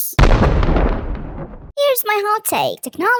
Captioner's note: thunder